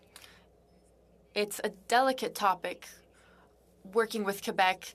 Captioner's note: speaking French